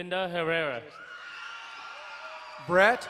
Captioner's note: crowd cheering and applauding